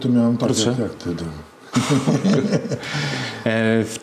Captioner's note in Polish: śmiech